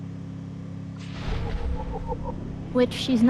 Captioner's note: whimpers